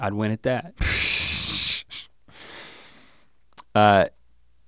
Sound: Rhett sputters

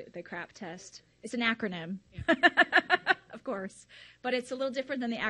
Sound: laughs loudly

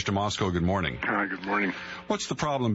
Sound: over telephone

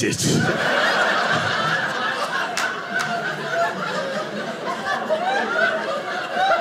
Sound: audience laughing

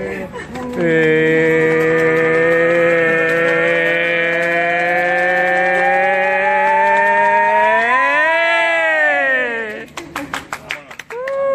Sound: giggles

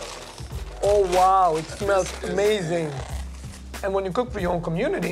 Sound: sniffing

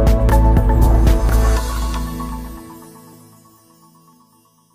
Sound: bright music; logo whooshing

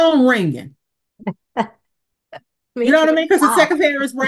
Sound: laughs

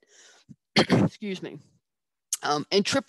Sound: coughs

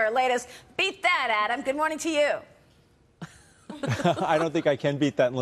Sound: laughter

